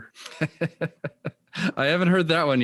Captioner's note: laughing